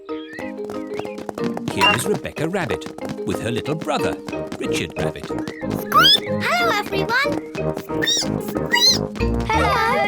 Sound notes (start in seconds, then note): 7.9 squeaks; 8.0 squeak